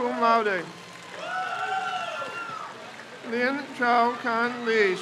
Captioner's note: crowd cheers